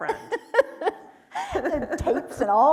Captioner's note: laughing